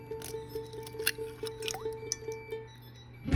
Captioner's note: cracking an egg into the mixing bowl